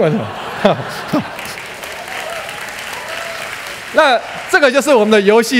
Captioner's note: applause